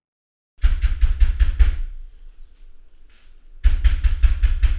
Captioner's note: pounding at door